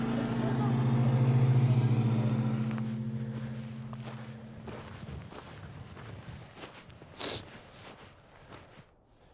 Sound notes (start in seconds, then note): 5.6 footsteps